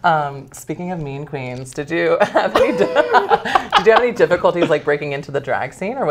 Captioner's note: laugh